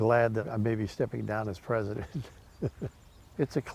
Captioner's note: laughing